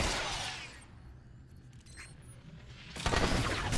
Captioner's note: gunshots